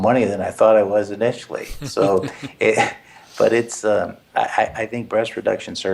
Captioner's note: laugh